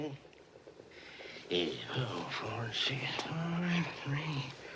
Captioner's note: muttering under his breath